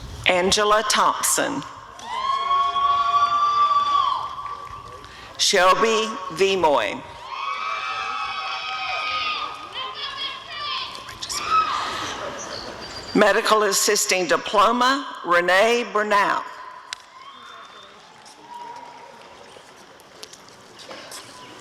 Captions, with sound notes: Angela Thompson [applause and cheering] Shelbea Veamoi [audience cheering] Medical Assisting Diploma— Rene Bernal [audience cheering]